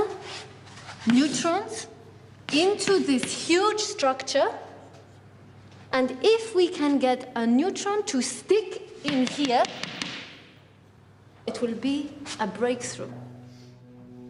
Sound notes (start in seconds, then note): none